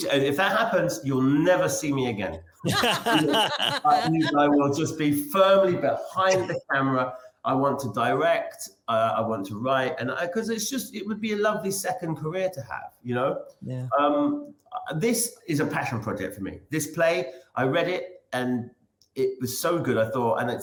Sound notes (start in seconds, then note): 2.6 laughs